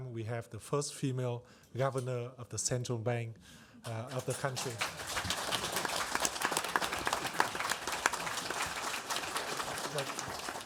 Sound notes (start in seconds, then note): 3.9 audience applauds